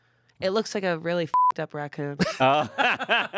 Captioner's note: beep; laughs